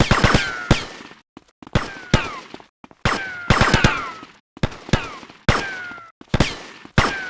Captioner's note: gun fires; gun fires; gun fires